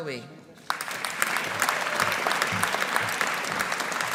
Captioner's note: audience applauding